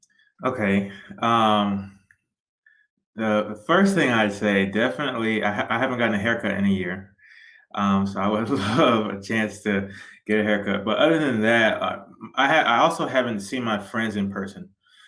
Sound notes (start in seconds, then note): 8.4 giggles